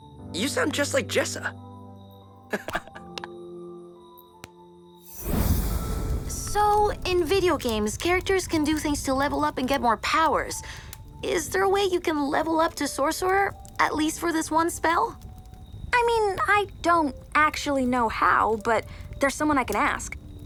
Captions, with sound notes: You sound just like Jessa! [Brax chuckles] [fire creaks] So, in video games, characters can do things to level up and get more powers. Is there a way you can “level-up” to Sorcerer? At least for this one spell? I mean, I don’t actually know how, but there’s someone I can ask.